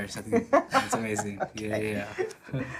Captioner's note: laughing